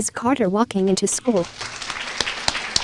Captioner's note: applause